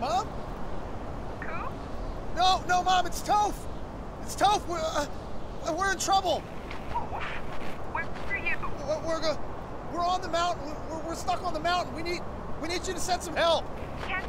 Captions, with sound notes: Mom? Coop? No, no, Mom, it's Toph. It's Toph. We're-- We're in trouble. [static] Where are you? We're on the mountain. We're stuck on the mountain. We need you to send some help.